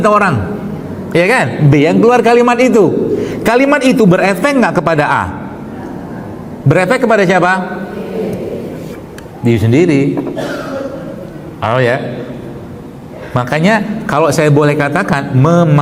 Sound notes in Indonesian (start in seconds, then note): 10.2 berdehem